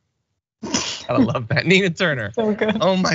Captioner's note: laugh